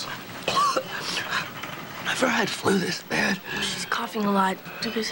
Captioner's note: coughing